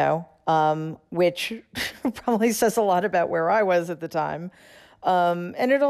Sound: laughter

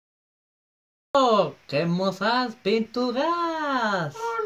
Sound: French accent

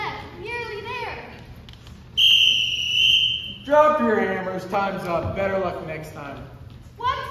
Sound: whistle

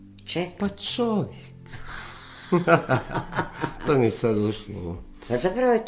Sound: laughter

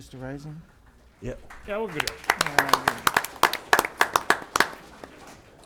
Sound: applause

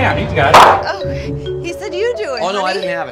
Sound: banging

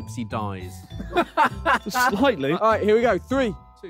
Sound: laughing

